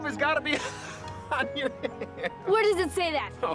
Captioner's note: laughs